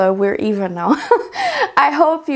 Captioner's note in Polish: śmiech